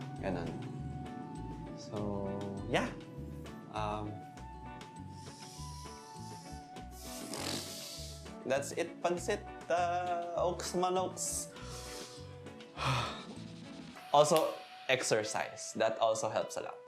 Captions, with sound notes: Just like that. So... yeah. Um... That's it pansit. Okesmanokes. [deep sigh] Also, exercise. That also helps a lot.